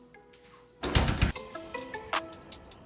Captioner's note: door thuds; upbeat chill-out music